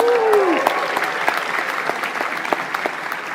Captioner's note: applause